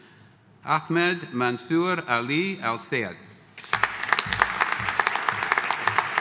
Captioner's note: audience applauding